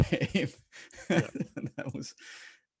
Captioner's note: laughing